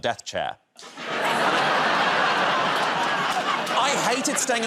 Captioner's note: laughter